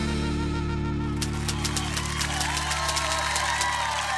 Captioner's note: cheering and applause